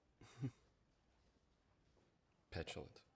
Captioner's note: chuckles